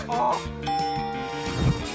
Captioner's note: ding!